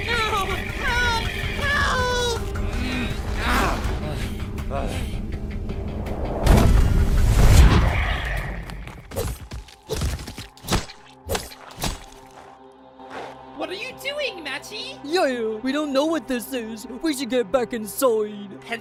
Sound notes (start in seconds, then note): 3.8 exhausted panting